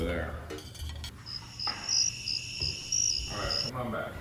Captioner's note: crickets chirping